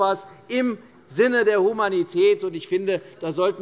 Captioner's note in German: none